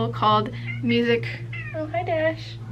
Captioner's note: cat meow